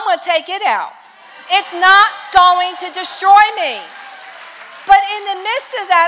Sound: congregation applause

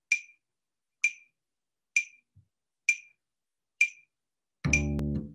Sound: metronome - slow rhythmic ticking

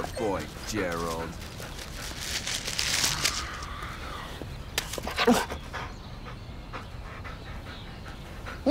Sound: dog panting

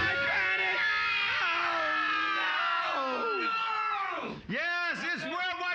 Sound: screaming

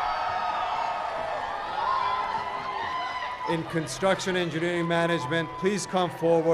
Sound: cheers and applause

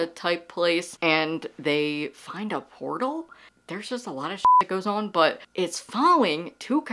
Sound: beep

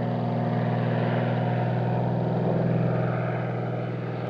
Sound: airplane sounds

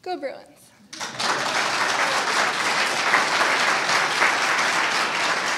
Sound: audience applauding

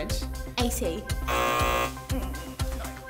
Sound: buzz

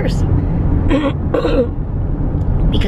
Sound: clearing throat

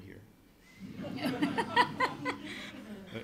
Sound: laughter

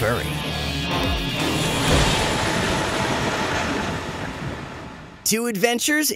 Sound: Bowser roaring

